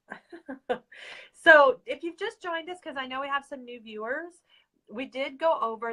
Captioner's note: laughs